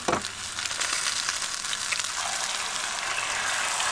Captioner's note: sizzles & Crackles